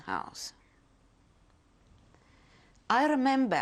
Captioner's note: pauses for 3 seconds